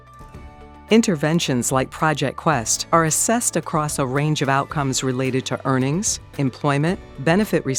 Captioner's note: voiceover